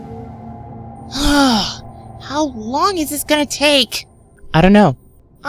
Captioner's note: sighs